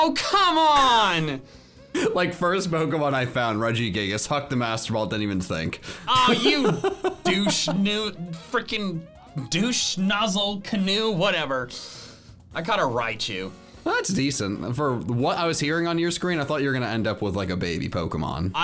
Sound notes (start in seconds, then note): 6.0 laughs